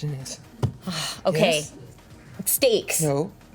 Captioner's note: sighs